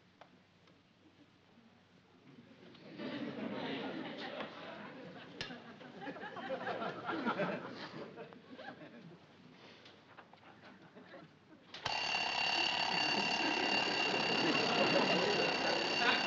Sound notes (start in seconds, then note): 11.8 alarm ringing